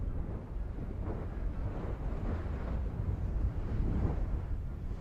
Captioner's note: lava thundering